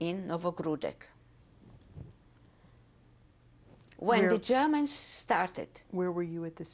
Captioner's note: pauses for 3 seconds